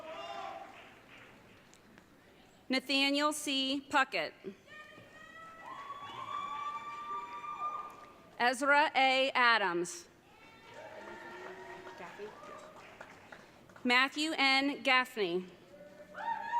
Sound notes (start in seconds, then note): 5.5 audience cheering